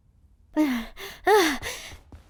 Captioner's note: groans, exclaims softly